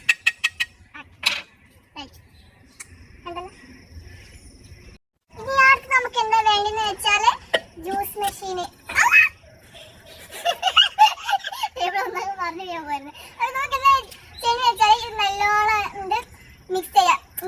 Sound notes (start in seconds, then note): 8.9 screaming; 9.7 giggling